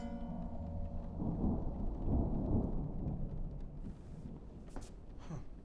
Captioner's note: thunder rumbles